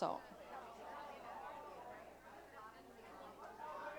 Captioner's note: chatter